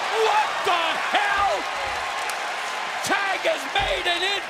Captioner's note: cheers and applause